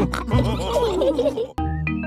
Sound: all laughing

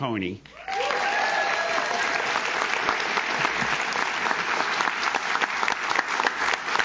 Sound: audience cheers; audience claps

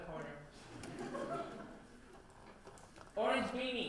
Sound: laughter

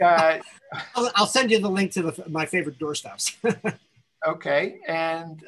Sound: laughs

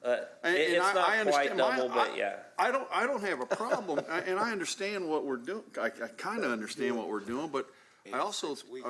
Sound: laughter

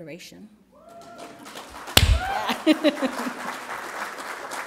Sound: applause

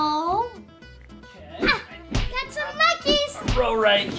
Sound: monkeys thudding

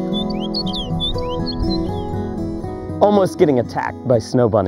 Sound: chirping musically

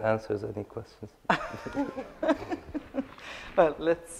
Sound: laughing

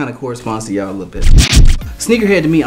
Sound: record scratching

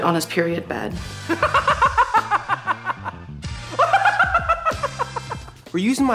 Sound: loud laughter

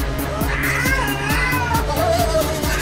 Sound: dramatic synth music; Ursula Andromeda yelling

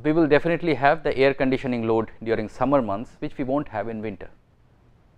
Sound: air conditioning

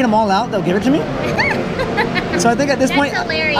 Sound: laughs

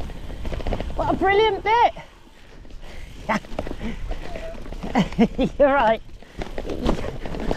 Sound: shouting

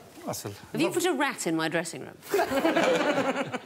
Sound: all laughing

